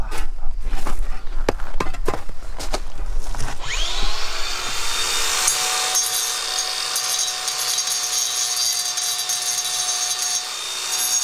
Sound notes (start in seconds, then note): 3.6 electrical sawing noise